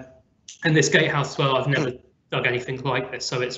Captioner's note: smacks lips